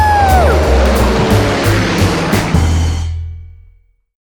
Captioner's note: airplane roaring